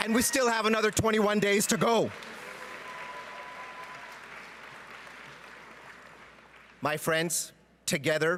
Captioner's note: cheering and Applause